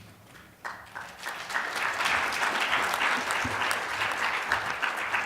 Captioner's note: audience applauding